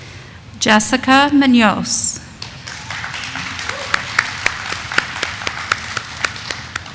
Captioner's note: audience applauding